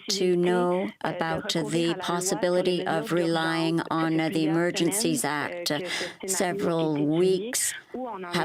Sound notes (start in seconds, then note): 4.1 speaking French